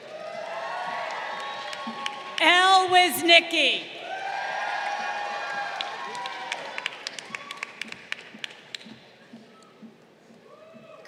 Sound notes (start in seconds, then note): 0.3 crowd cheering; 4.3 crowd cheering